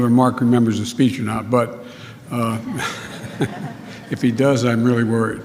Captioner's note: laughter